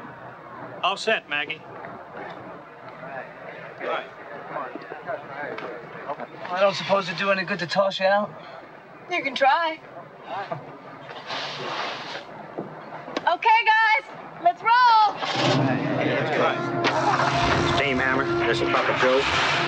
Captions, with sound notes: - All set, Maggie. - I don't suppose it'd do any good to tells us you're out? - You can try. Okay guys, let's roll. (engines starting) - Steam hammer, this is Papa goat.